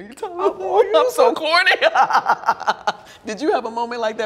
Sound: laughs

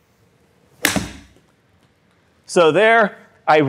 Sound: golf club hits ball, ball hits screen

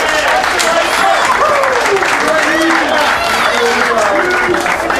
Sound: applause

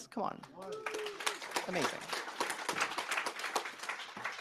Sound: applause

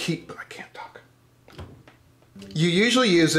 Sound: whispering

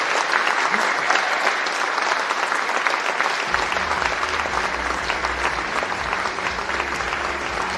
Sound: cheering and Applause

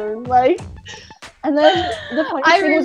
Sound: laughs

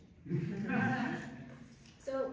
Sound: laughter

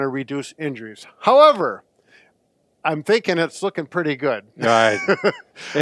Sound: laughs

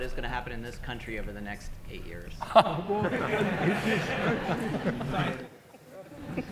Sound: audience laughing

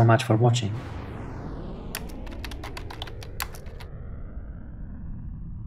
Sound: closing page whooshing

